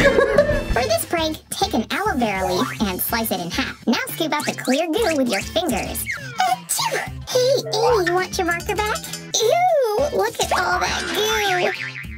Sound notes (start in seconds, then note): 0.4 funny voice; 6.7 sneezes